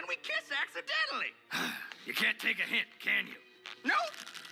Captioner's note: sigh